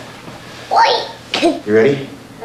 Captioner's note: babbles & laughs